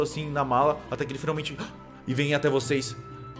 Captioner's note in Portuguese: susto